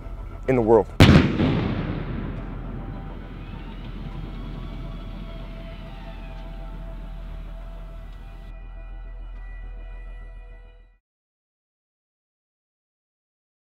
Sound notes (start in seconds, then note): 1.0 artillery firing; 1.1 siren sounding; 6.2 dramatic music